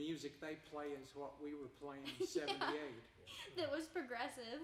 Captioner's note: chuckling; laughing